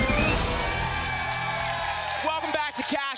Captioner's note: applause